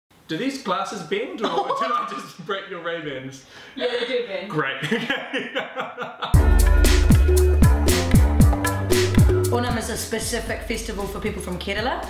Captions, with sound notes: Do these glasses bend or did I just break your Ray Ban's? Yeah they do bend Great! *laughing* Onam is a specific festival for people from Kerela